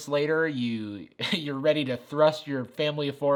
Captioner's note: chuckles